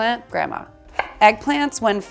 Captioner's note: cutting board thuds